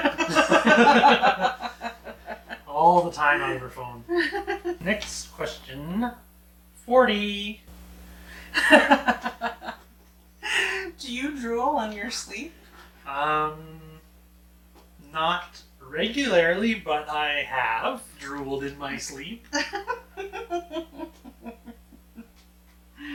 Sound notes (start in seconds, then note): 0.0 both laughing; 8.5 laughing; 19.5 laughing